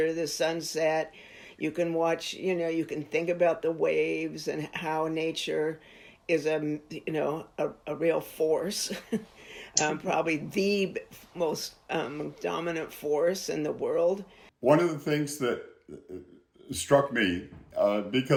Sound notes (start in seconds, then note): 9.1 chuckles